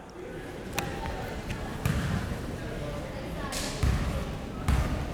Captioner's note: crowd members talking